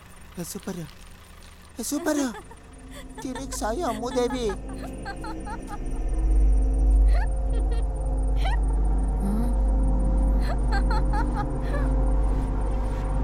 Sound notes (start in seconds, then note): 1.8 laughs